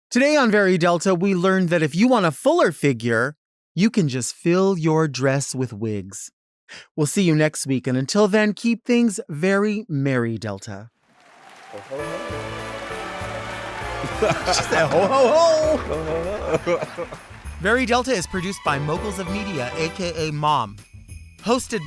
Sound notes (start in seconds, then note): 13.0 bright holiday music; 16.9 laughs